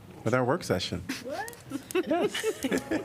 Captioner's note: laughter